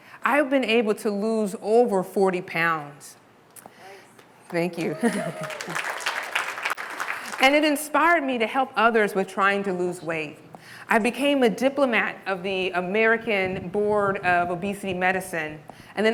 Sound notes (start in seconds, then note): 4.8 audience applause